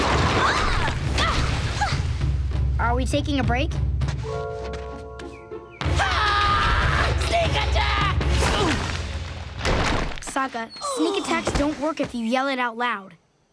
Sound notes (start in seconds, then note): 0.3 grunting; 5.9 screaming